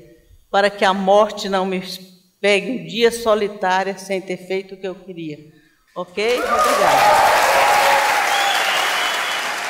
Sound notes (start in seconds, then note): 6.2 applause